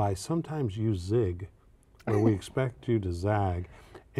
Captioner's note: laughter